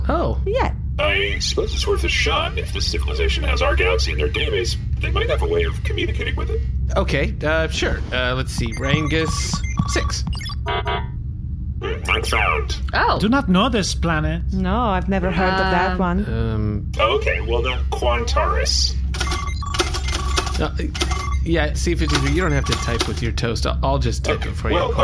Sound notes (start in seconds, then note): 8.6 typing